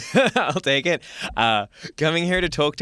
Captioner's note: laughs